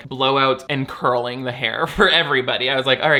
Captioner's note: laughs